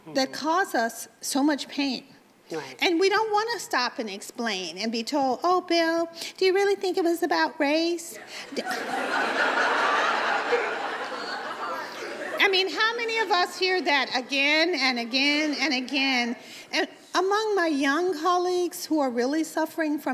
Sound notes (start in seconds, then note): 8.4 audience laughs